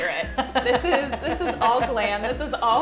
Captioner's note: laughs